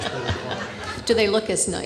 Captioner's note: audience laughing